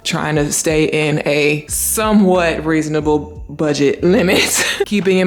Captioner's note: chuckles